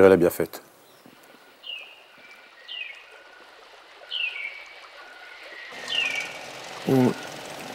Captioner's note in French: chant d'oiseau